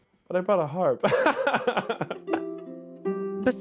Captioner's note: laughing